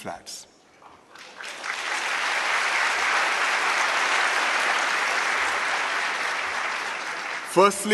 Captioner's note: applause